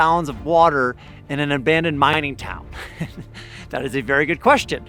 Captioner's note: chuckles